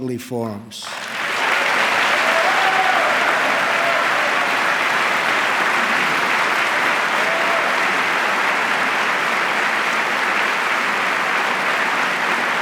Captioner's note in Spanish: aplauso